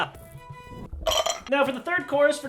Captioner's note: glasses clink